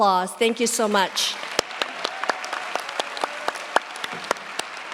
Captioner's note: cheers, applause